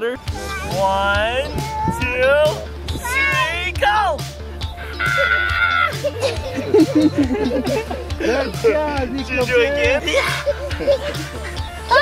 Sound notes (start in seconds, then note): 4.9 screaming